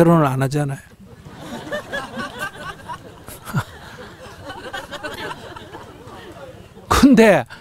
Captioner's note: audience Laughter